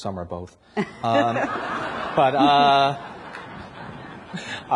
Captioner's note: everyone laughs